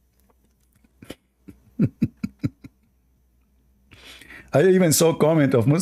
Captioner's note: Ketawa